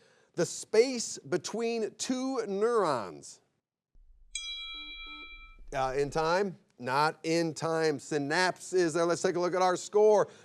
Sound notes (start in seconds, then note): 4.2 buzzer beeps; 4.3 bell chimes